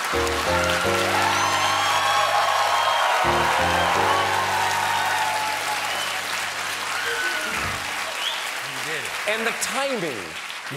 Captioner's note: cheers and applause